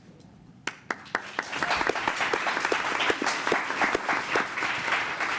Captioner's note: applause